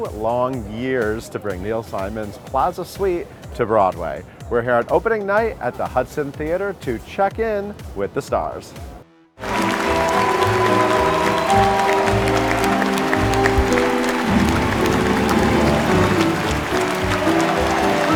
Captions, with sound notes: long years to bring Neil Simon's "Plaza Suite" to Broadway. We're here on opening night at the Hudson Theatre to check in with the stars. (music and applause) (applause continues)